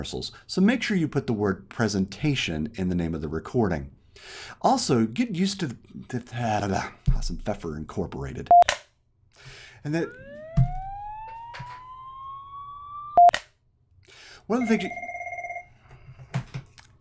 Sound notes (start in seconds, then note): 9.8 police car siren; 14.5 phone rings